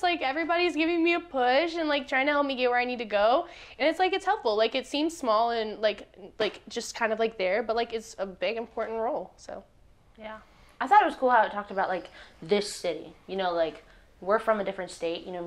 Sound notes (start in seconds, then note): none